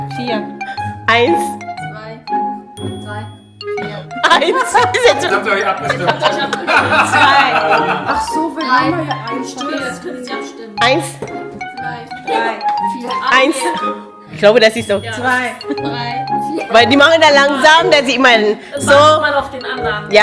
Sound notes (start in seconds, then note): 0.1 speaking German; 7.7 laugh; 10.7 speaking German